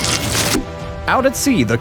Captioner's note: chop